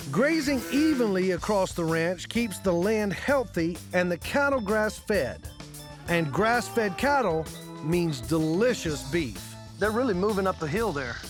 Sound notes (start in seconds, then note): none